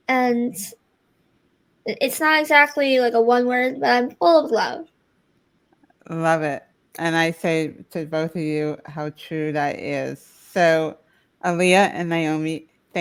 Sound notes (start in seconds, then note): none